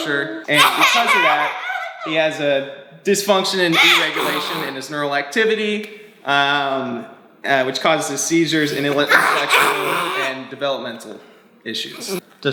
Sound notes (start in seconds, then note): 0.4 laughing; 8.8 yelling